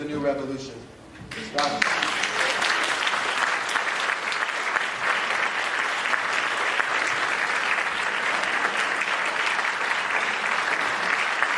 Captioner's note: applause